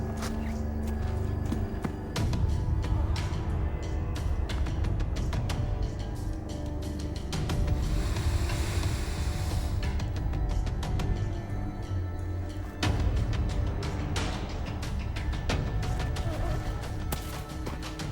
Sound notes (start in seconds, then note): 0.2 suspenseful music continues; 7.6 biker sniffing; 14.0 suspenseful music continues